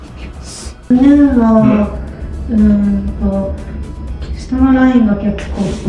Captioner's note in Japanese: 鼻息